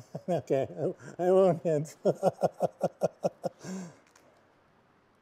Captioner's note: laughs